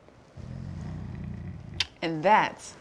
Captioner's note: kisses